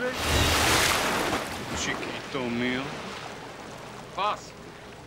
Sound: speaking foreign language; water splashing

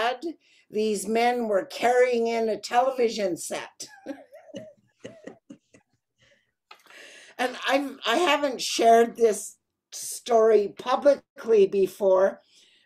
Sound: laughing

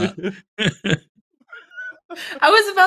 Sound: laughter

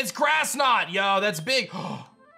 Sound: gasps

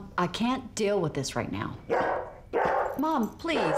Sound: dog barking; barking

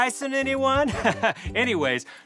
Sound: laughing

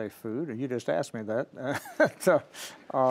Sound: laughing

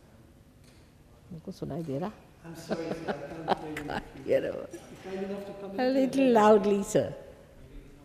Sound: shri mataji laughs

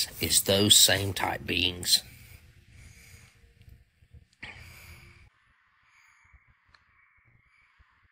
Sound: blank Audio

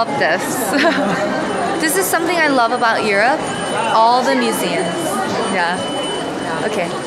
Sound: giggles

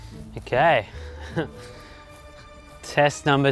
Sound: chuckles

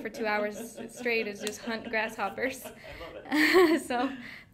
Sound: laughing

